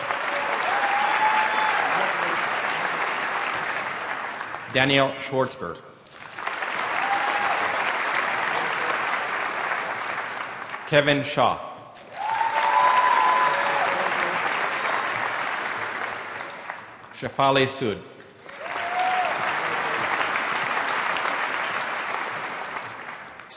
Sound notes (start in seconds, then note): 0.0 applause; 6.1 applause